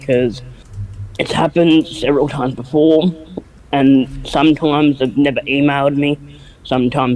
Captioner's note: strains voice